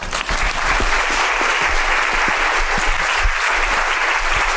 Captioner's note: audience applauding